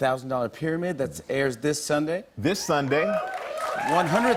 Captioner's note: cheers and applause